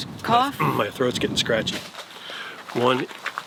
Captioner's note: clears throat